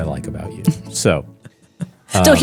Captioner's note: chuckles